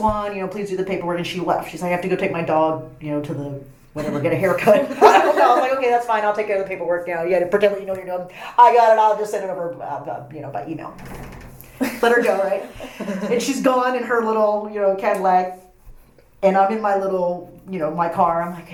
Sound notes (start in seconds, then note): 4.0 all laugh